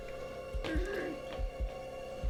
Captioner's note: muffled voice